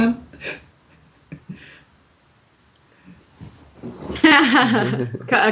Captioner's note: chuckling